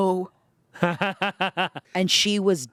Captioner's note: laughs